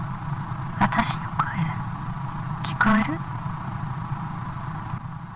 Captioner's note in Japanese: 粗いノイズ混じりの音声